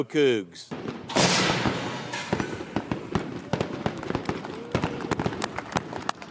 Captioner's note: fireworks crackling; deans clapping